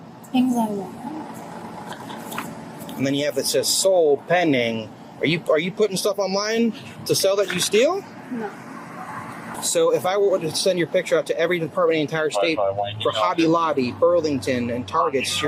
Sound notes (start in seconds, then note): 12.3 radio chatter